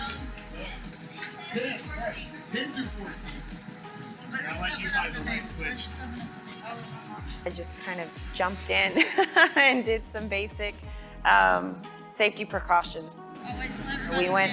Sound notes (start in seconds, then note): 9.0 laughing